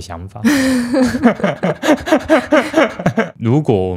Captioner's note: laughs